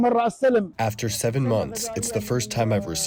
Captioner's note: through translator